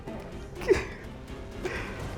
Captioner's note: laughter